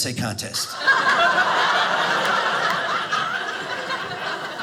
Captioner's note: audience laughing